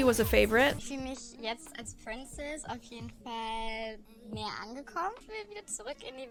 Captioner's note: show contestant speaking in German